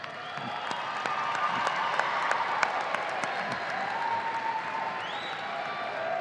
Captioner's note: audience applauding and cheering